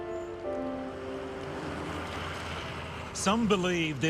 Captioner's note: bright uplifting music; traffic rumbling